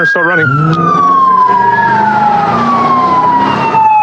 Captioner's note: engngine e rerevving